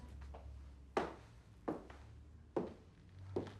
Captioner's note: heels clack